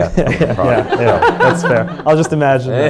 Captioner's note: audience laughs